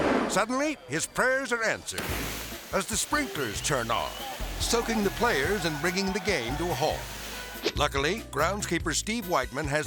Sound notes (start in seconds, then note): 1.9 water spraying